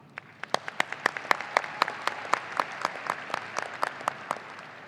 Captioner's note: audience applauding